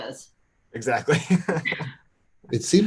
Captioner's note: laughs